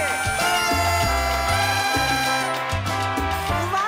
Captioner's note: noisemakers honk